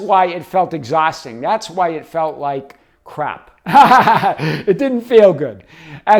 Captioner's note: laughing